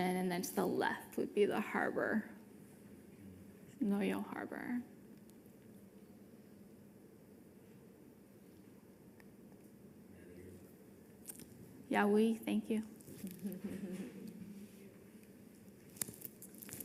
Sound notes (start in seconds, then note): 12.0 speaking foreign language; 13.2 participant chuckles